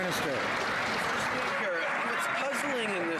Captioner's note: some Applause